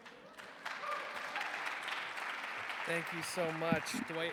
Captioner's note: attendees cheering